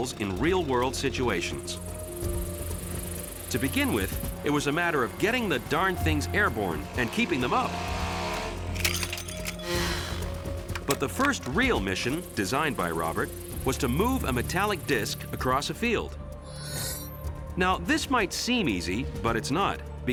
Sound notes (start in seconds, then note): 8.5 motors rumbling; 8.5 vehicles clattering